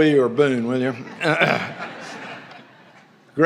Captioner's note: laughter